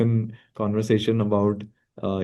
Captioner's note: laughs